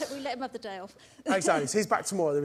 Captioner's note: laughs